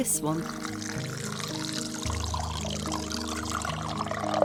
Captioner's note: relaxing music; water flowing